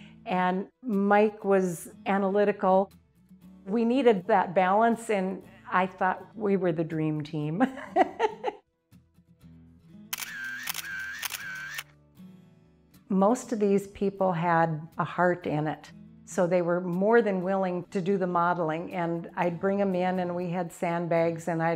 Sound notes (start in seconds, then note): 7.7 laughing; 10.1 camera flashing